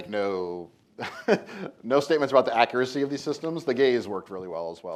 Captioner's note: laughs